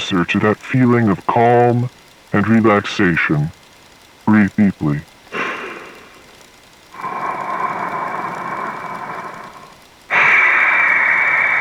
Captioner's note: breathing